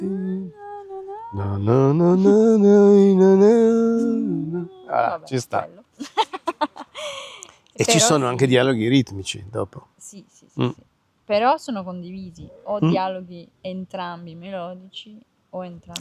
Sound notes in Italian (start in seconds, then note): 6.0 risate